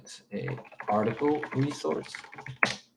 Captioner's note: keyboard clacking